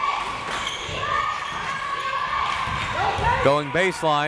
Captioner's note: crowd members chanting